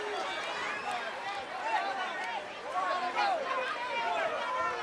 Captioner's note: audience shouting